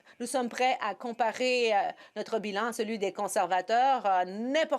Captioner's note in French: voix de l'interprète